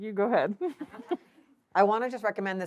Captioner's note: laughs